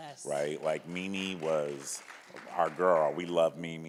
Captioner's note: audience claps